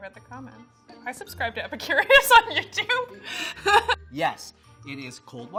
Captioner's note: laughing